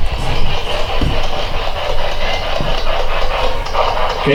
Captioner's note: clicking; static